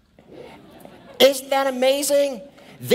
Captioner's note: laughing